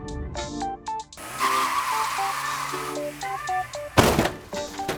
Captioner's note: tires screech